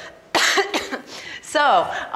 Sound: coughs

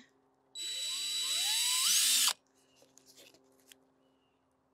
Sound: drill accelerating

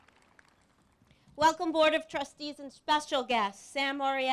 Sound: applause

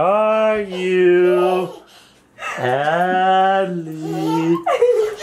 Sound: giggling

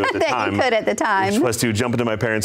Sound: laughs

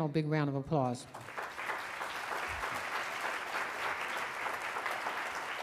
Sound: audience applauding

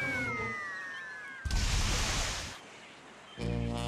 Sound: Porky screaming; splashing

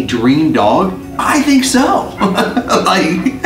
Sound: laughs

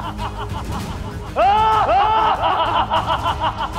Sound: evil laughter

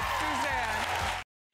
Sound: applause

